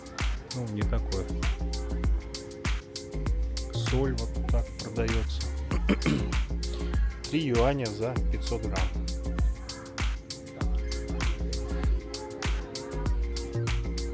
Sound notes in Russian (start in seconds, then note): 5.7 откашливается